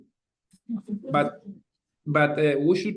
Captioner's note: attendees laughing